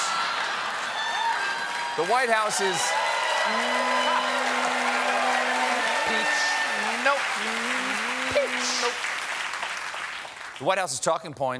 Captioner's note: cheers and applause